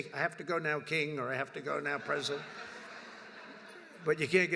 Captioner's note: laughter